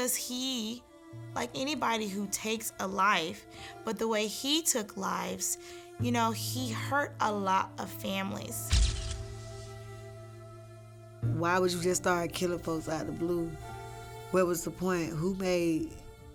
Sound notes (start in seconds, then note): 8.8 camera clicks